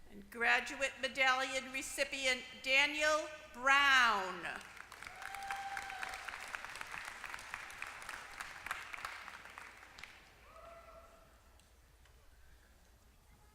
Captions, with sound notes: >> And graduate medallion recipient, Daniel Brown. >> [APPLAUSE]